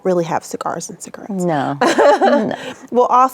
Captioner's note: laughing